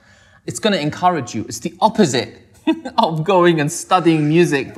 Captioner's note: laughs